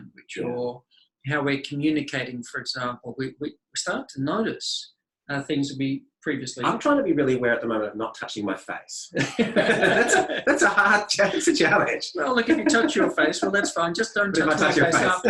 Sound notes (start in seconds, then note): 9.1 both laugh